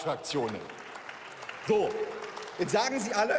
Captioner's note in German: Beifall